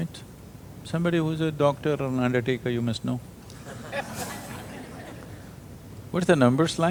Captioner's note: laughter